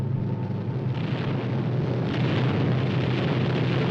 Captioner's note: bombs booming